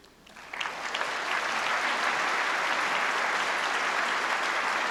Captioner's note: applause